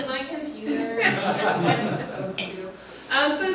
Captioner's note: group laughing